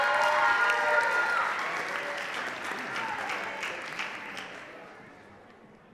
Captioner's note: audience cheering and clapping